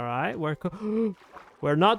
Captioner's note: gasp